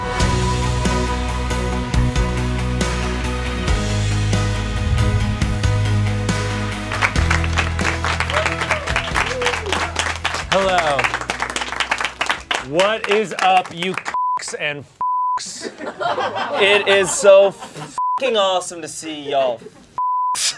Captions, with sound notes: (upbeat music) (audience applauds) - Hello. What is up you (beep) and (beep)? (audience laughs) - It is so (beep) awesome to see y'all (beep).